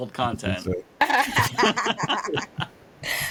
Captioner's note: laughing